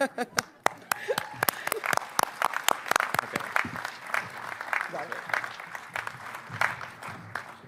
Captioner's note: applause